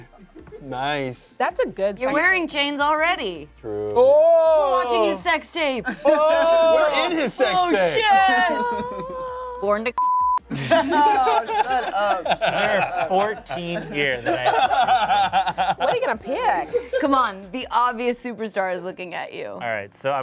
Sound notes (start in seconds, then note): 4.0 exclaims; 9.9 beep; 10.5 cast laughs